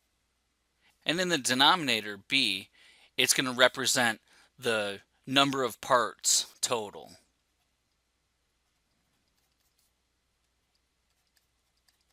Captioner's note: pause